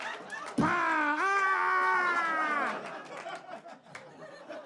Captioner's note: screaming loudly